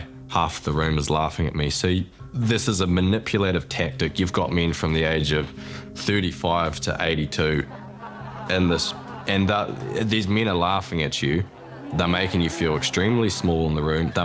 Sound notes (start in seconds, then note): 7.4 laughter